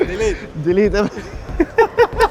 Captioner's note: laughs